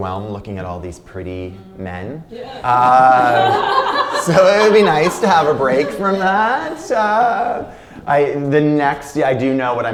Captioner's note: laughter